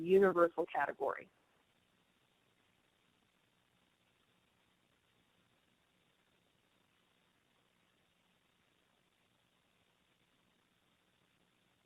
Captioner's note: silence